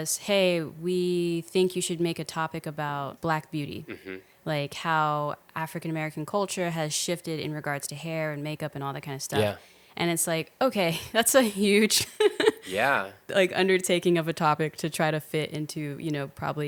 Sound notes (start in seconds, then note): 12.0 laughing